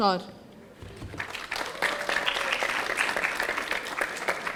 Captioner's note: audience applauding